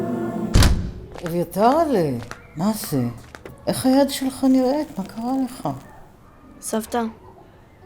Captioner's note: grandma and boy speaking in foreign language